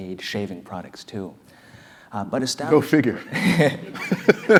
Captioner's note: laugh